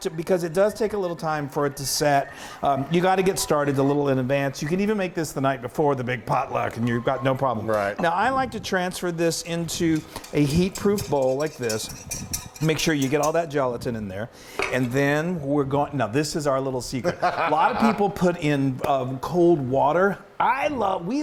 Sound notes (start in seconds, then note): 17.0 laughing